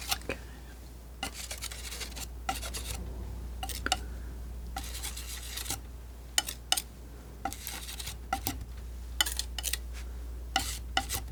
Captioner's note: scratching